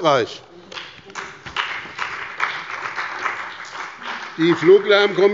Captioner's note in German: Beifall bei dem BÜNDNIS 90/ DIE GRÜNEN und der CDU